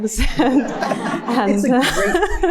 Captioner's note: laughs